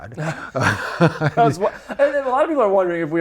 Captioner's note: laughing